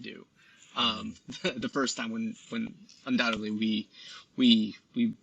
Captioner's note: laughs